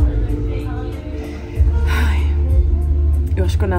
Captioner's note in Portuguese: suspira